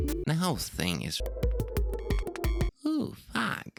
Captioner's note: blip-blop